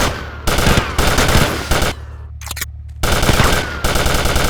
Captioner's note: gun fires